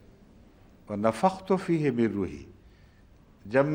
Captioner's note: Arabic